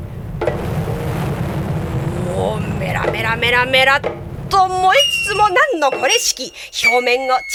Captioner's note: sound of burning